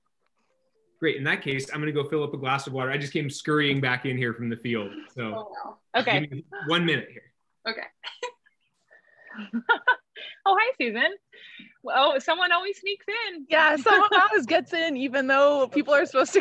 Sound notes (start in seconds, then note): 9.3 chuckles; 9.3 laughing